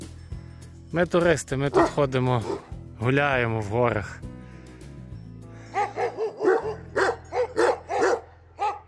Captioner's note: woof woof!